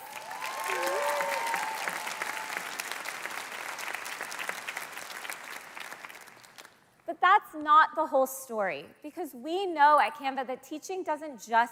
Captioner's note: cheers and Applause